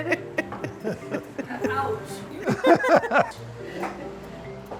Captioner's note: laughing